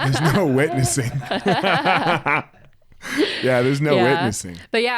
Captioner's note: both laughing